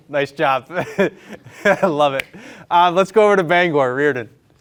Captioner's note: laughing